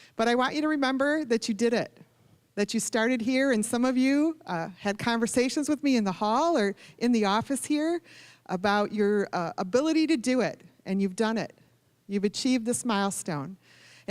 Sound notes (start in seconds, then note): none